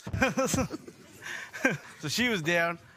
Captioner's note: laughter